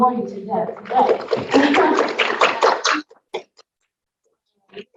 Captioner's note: students clapping